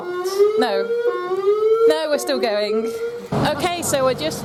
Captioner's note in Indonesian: Sirene berbunyi